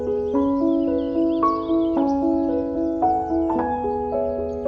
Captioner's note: birds chirping